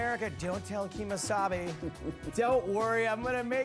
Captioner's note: laughs